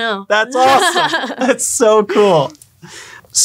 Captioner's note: laughing